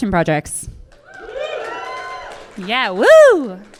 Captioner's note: cheers and applause from audience